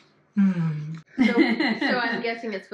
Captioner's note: laughing